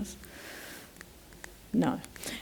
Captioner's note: clicking